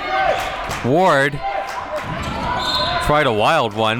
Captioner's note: whistle blows